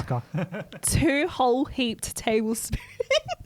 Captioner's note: laughs